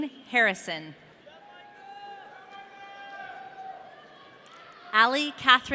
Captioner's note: audience cheering